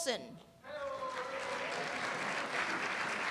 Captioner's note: applause